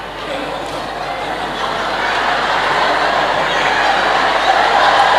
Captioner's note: applause